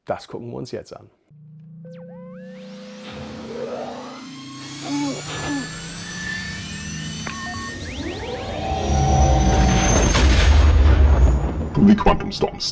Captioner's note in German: Millennium Falcon Trieberksgeräusche